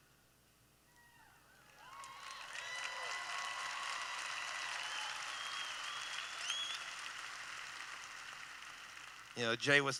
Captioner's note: applause